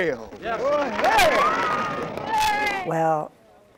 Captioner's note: audience applauding